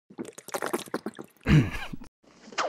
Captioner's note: gulping; grunts